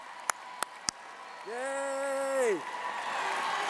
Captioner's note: cheers